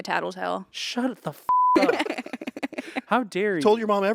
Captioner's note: beep